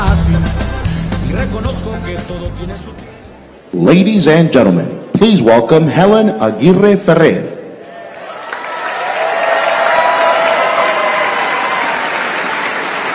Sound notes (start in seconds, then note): 9.9 applause